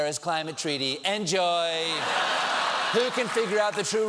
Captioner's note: laughter